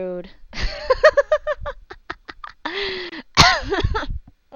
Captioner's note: laughs